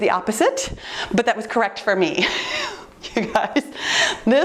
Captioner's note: laughs